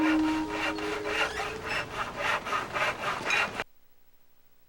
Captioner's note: sawing